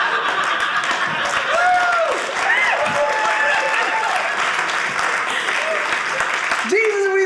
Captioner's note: audience laughing; audience cheering